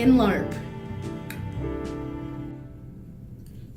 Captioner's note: mouth click